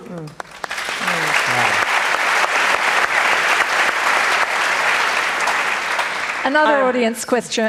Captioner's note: applause